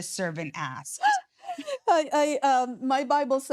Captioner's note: laughing